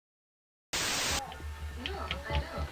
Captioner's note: static hissing